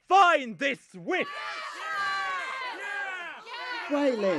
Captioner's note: villagers shout and cheer